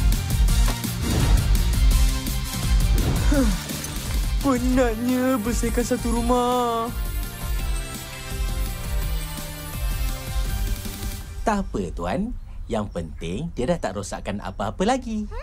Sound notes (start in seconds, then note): 3.0 sighs